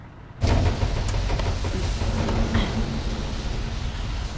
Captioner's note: creaking